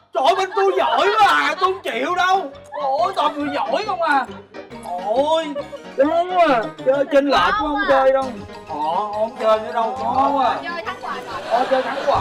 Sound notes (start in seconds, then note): 2.3 sarcasm; 8.5 sarcasm; 11.1 laughing